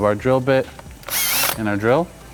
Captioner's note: drill whirring